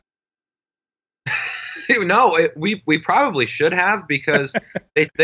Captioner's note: laughs